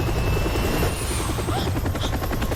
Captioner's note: gasps